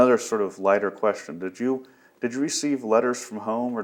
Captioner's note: none